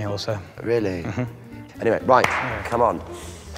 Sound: claps

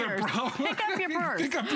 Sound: laughter

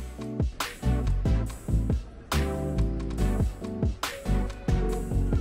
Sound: tears

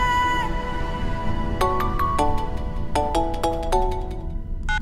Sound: mobile ringing

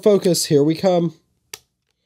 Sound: click

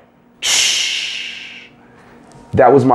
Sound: air Brake Noise

